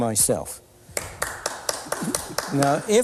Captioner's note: applause